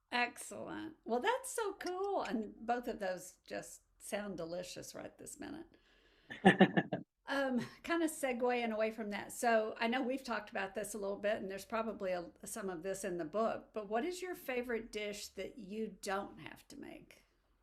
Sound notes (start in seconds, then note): 6.3 laughs